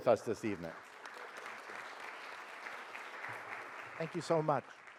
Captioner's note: audience applauds